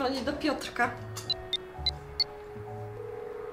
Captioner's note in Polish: dźwięk klikania